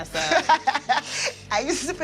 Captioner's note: laughs